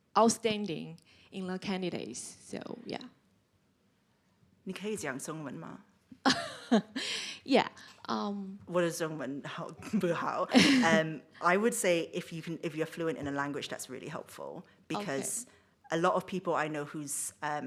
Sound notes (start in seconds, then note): 4.4 speaks Mandarin; 6.0 audience Member 12, laughing; 8.7 speaks Mandarin